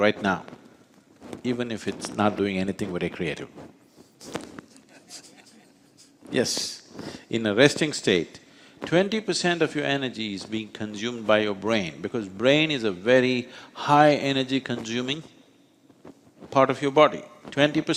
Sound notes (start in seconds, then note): 4.7 laughs